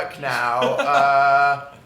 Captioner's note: laughs